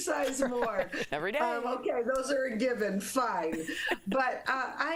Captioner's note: laughter